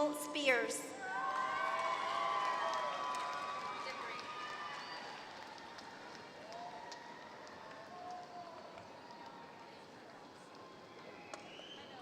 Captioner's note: applause